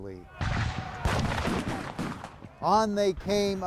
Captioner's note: men yelling; guns blasting